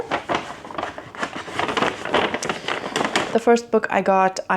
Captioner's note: paper bag rustling